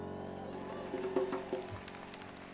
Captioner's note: applause